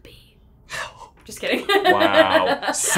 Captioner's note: whispers; gasping; laughs